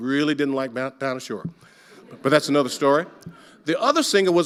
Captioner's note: audience laughing